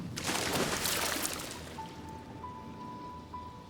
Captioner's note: water splashes